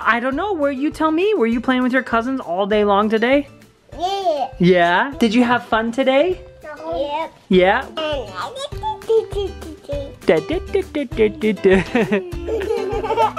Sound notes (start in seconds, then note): 8.0 babbling; 8.4 laughing; 10.5 babbling